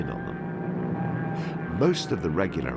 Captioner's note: airplane screaming